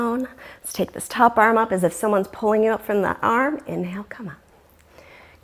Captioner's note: deep breathing sounds